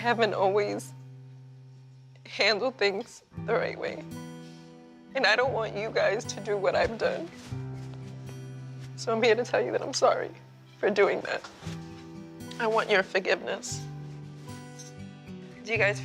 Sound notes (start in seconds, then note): none